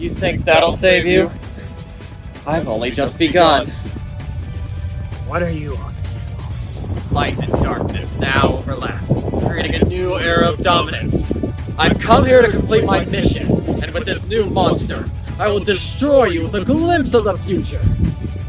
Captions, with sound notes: You think that’ll save you? I’ve only just begun. (DISTANT RUMBLING) What are you up to? Light and darkness now overlap, creating a new era of dominance. I come here to complete my mission! And with this new monster, I will destroy you with a glimpse of the future!